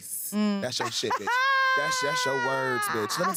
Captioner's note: laughs